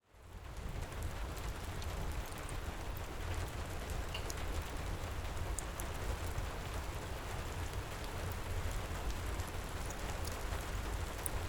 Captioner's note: crackling fireplace, heavy rain, distant rolling thunder